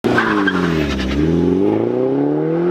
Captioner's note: tires screeching; engine revving